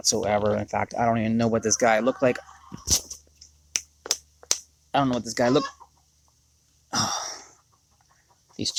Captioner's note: clucking; sighing